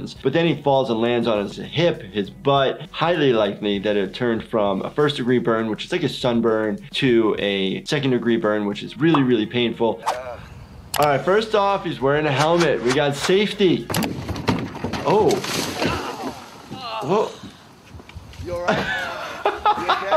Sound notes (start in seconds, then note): 10.0 Steve-O grunts; 16.8 Steve-O grunts; 18.5 laughing